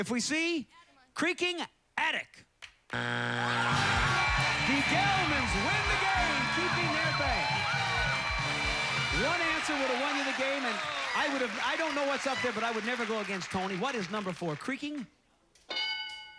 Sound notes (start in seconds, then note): 2.9 buzzer; 5.7 cheers and applause